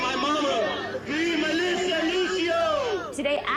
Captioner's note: chanting